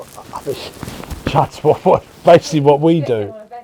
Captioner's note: laughs; scoffs